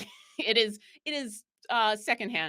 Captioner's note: laughs